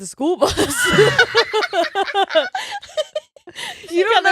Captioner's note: laughing